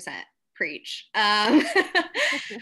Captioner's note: laughs